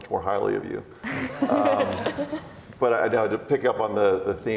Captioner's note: laughs